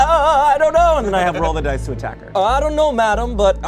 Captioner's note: beep